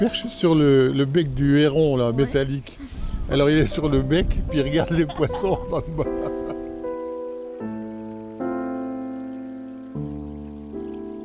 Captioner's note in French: rire